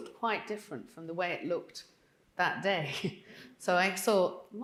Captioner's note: chuckling